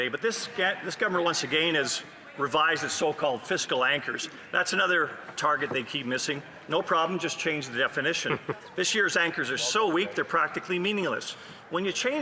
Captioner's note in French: voix de l'interprète